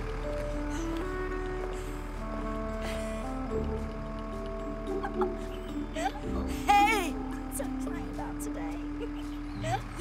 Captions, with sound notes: [panting] YOUNG WOMAN [giggles] Hey! So excited about today! [giggles]